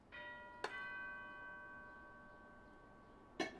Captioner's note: doorbell ringing